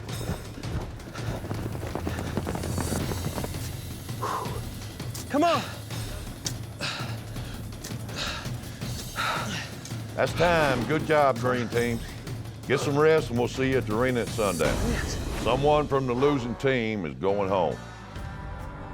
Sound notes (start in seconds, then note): 0.3 hoofbeats approaching; 4.0 grunting; 8.1 grunting